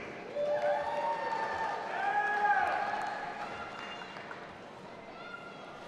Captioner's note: audience applauding and cheering